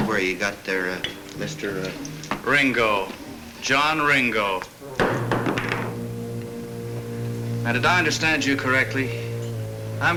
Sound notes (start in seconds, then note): 5.0 glass thuds